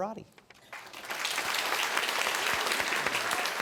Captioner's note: applause